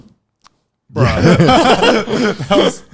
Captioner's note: laughing